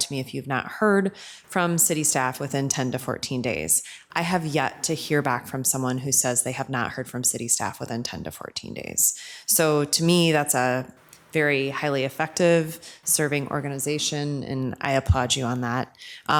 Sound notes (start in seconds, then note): none